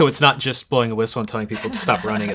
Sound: laughs

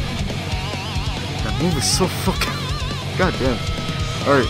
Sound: laughs

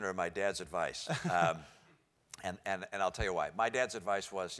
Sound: laugh

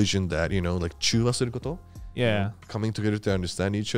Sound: speaking foreign language

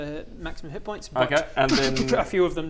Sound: dssh-dsh-dsh-dsssh

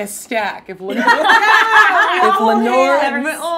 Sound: all laughing

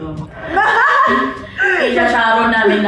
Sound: laughs

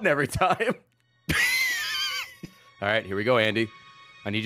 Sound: laughs

